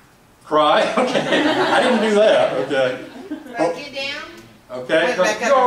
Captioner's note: laughs